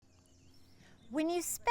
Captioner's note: birdsong